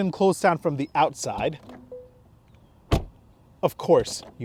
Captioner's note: car door thudding